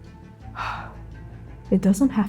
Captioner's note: exhaling